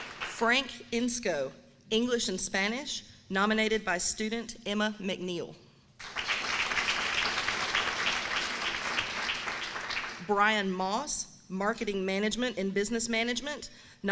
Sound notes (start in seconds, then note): 6.0 applause